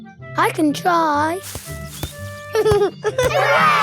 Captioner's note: leaves rustle; giggling